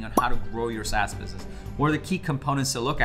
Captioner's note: graphic popping